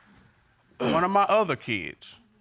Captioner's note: clears throat